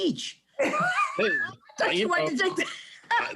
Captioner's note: laughs